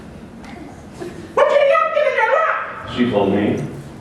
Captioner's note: laughter